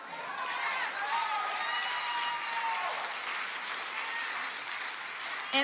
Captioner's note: audience cheers and applauds